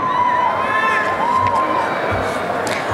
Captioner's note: applause and cheering